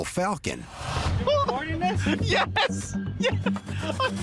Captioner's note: laughing; laughs